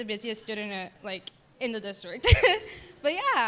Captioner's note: laughing